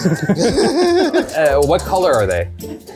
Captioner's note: laugh